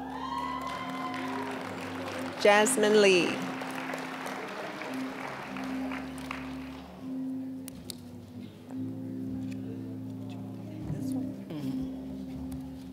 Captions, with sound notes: (applause, cheering) Jasmine Lee. (applause)